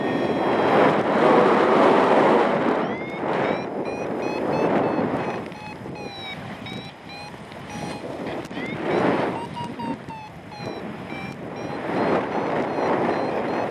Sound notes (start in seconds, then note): 0.0 low pitch alarm sounds; 0.3 strong wind gusts; 2.4 alarm sounds; 7.6 alarm accelerates; 8.5 wind whooshing